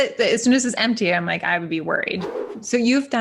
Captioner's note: air whooshing